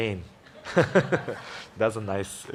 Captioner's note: laughs loudly